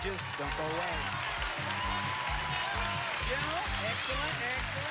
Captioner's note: cheers and applause